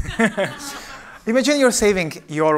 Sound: laughter

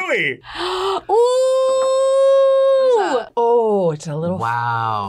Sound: gasps

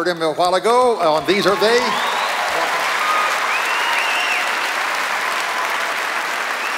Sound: cheers and applause

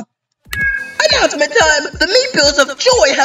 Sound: megaphone turns on

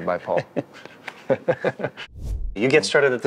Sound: everyone laughs

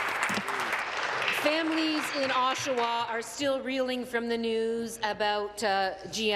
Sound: applause

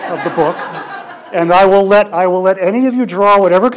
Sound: audience laughs

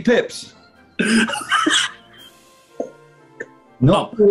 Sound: laughing

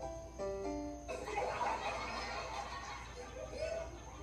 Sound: audience laughing

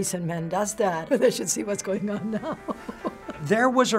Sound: laughs

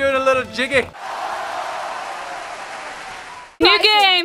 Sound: crowd cheering and clapping

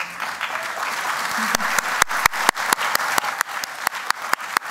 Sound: applause

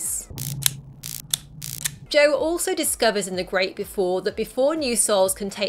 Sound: electrical crackling sounds

